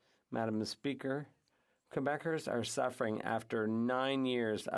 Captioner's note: speaking French